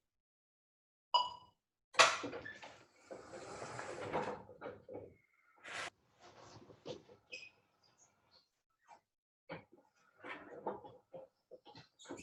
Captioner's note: wheelchair moving